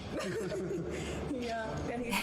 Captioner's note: Harry and Meghan giggle